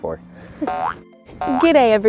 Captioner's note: boing